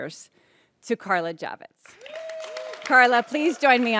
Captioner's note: audience cheers